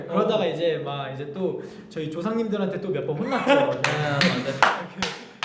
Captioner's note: bursts out laughing